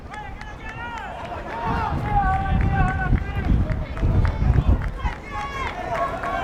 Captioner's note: players yelling in foreign language